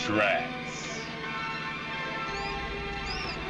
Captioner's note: squeaking